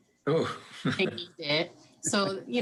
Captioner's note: laughs